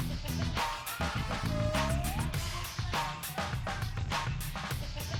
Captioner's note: background laugher and chatter